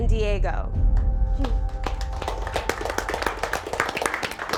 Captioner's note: contestants applaud